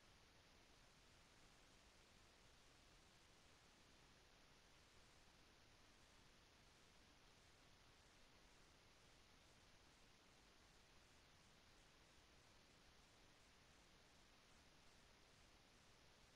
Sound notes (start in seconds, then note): none